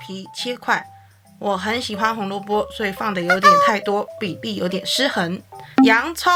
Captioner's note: laughs